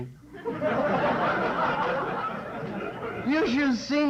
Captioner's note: laughter